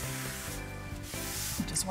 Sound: scraping

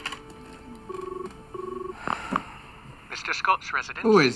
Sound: phone rings

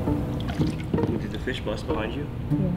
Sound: splash

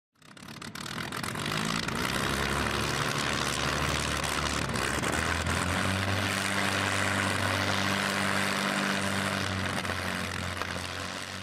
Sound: aircraft engine starting and fading into the distance

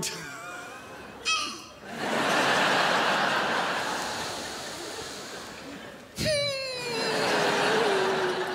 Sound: crowd laughs

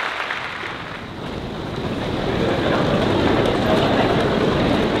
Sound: loud rustling

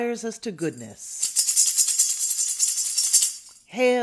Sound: sistrum rattles

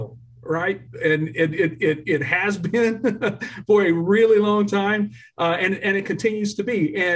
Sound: laughter

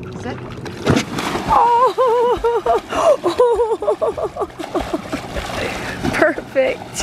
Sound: water splashing and laughing

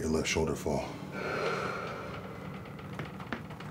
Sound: exhales slowly

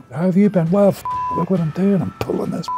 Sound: beep

